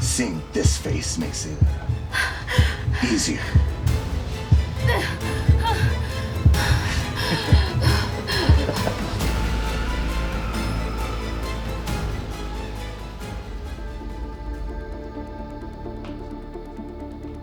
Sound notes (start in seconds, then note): 3.9 dramatic orchestral music; 7.6 Sarah gasping; 7.6 reaper laughing; 10.9 dramatic orchestral music; 14.6 tense music